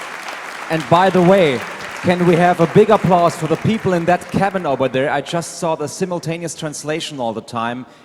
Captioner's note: applause